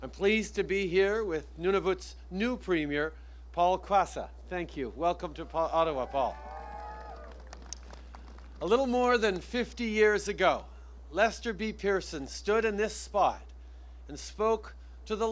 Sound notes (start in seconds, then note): 6.4 applause